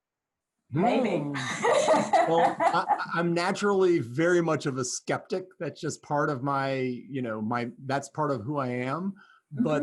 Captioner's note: gasp